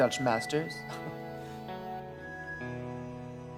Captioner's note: laughs